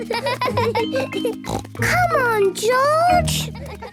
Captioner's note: laughs; snort